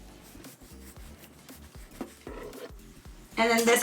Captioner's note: cutting dough